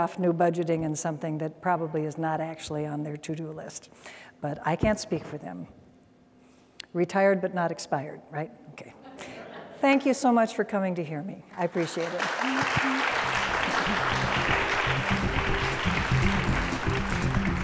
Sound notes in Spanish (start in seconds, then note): 11.5 applause